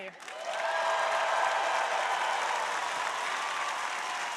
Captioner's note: crowd applauding